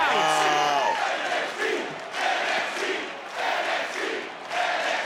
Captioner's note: crowd chants